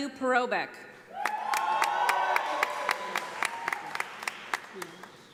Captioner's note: audience applauding